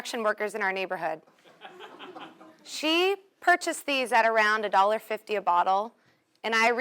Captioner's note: laugh